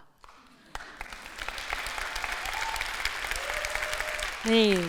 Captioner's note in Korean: 박수와 환호